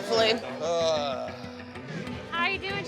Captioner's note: groans